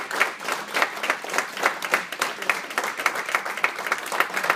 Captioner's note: applause